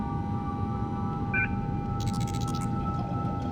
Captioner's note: device beeps